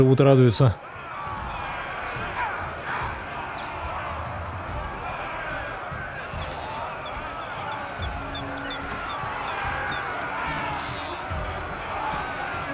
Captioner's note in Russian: ликование; крик